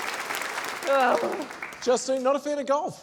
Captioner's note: applause; groans